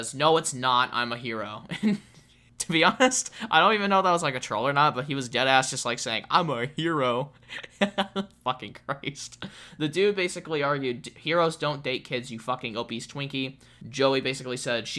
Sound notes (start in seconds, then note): 1.7 soft laugh